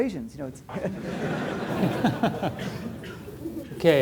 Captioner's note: laughter